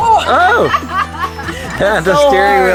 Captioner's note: laughing